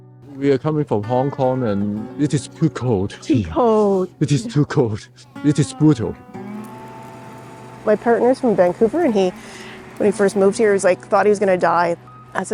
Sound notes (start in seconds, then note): 6.8 car engine roaring